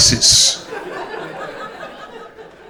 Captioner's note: crowd laughter